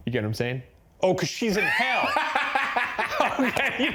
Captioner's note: laughing